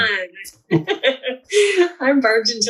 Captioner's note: laughs